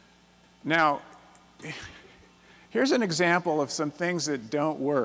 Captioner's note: chuckles